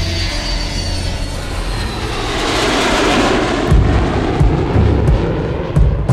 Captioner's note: jet engine rumbling; pounding rock music